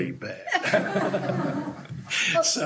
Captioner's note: laughter